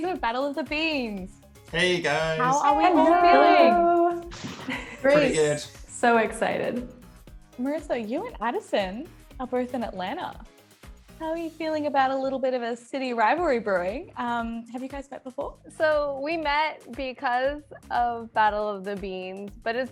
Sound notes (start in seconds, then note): 1.8 group greets simultaneously